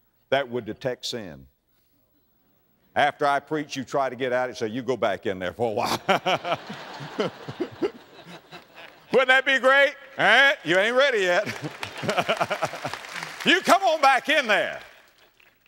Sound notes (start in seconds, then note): 5.8 audience laughter; 8.2 audience applause; 10.8 audience applause